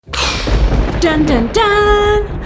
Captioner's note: lightning crack